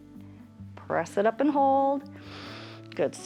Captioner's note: inhales